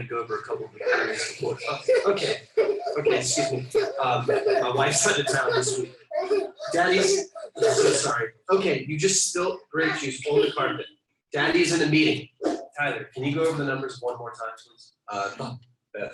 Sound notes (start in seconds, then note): 1.0 child screaming; 3.6 child giggling